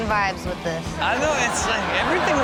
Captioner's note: audience laughs